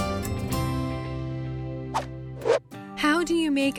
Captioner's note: whoosh